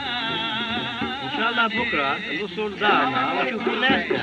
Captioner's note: speaking Native Language